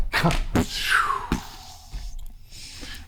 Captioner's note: chuckles